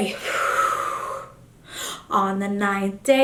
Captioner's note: exhales